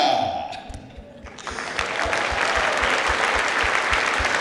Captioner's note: clapping